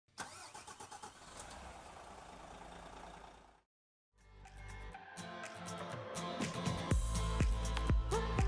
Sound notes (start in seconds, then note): 0.1 car engine starts; 4.5 upbeat pop music begins